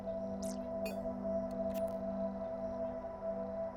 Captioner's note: digital clicks